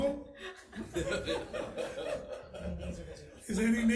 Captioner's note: all laugh